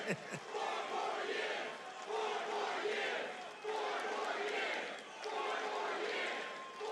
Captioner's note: audience chanting "four more years